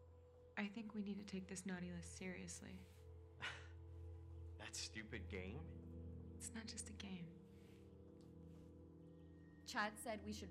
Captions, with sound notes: - (chuckling) That stupid game? - It's not just a game. - Chance said we should write down